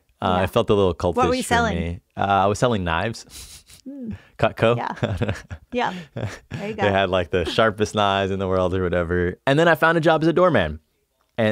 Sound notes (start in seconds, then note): 5.0 laughs